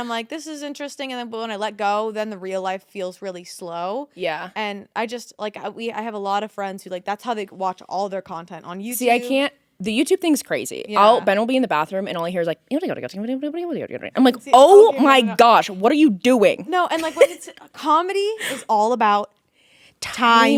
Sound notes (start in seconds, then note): 13.3 imitating sped up video